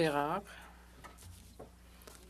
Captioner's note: speaking French